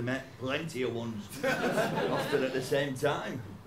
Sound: laughter

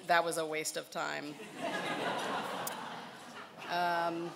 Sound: laughing

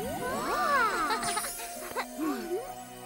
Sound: celestial music playing; all exclaiming; chuckles

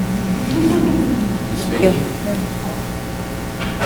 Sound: laughing

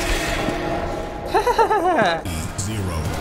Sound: hehehe

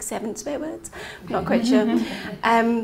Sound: laughing

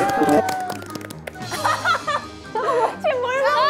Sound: burst out in laughter at the prize

